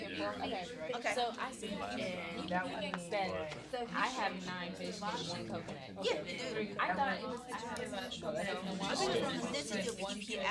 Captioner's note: students murmur